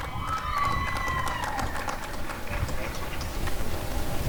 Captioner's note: applause and cheering